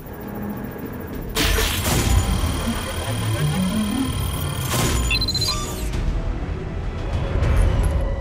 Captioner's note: successful hack sounds